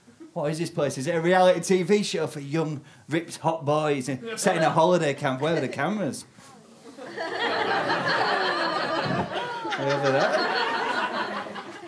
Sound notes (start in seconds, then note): 6.9 audience laughter